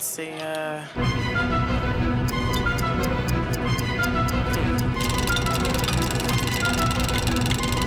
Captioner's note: dramatic music; clocks ticking